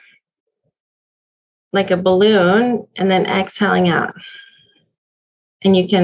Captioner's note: breathes out